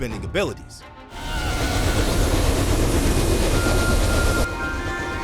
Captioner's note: whooshing